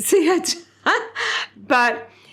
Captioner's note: laughs